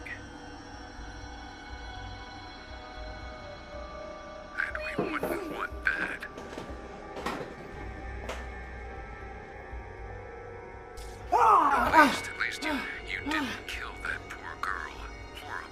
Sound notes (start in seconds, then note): 0.3 ominous music; 6.0 knocking; 6.3 frightened music; 11.3 Kenny screams